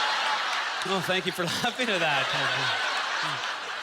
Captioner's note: audience laughter